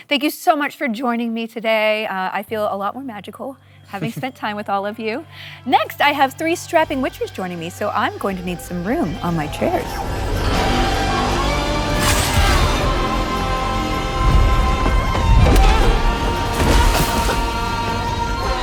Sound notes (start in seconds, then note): 11.9 blade clangs; 17.2 coughs